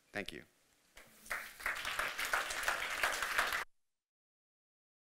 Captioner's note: audience applauding